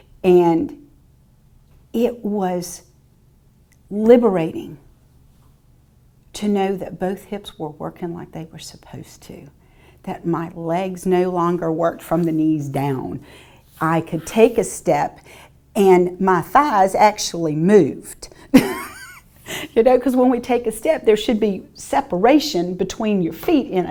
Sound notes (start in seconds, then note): 18.5 chuckles